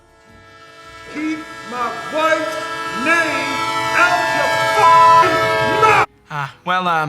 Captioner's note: beping